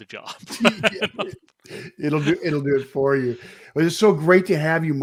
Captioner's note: laughs